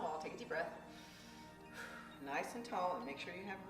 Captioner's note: deep breathing